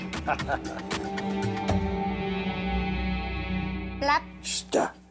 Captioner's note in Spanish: risas